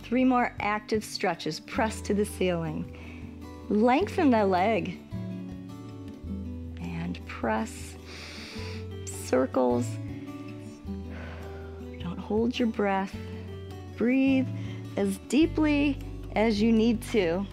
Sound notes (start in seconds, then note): 8.0 inhales; 10.6 exhales